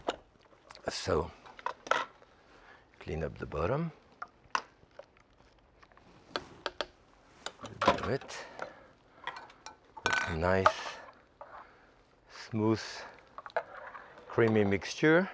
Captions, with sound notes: So clean up the bottom. (spatula tapping) All right. Nice, smooth, creamy mixture.